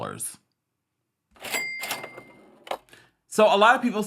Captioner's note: cash register dings